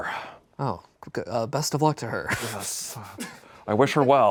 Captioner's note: laughs